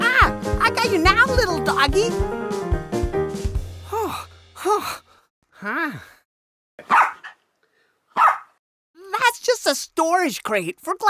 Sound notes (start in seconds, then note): 3.8 heavy breathing; 6.5 Doofie Barks